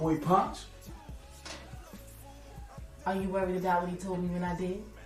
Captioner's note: voiceover